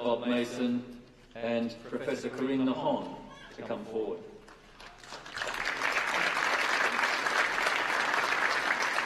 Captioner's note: applause